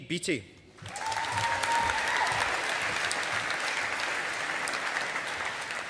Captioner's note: audience applauding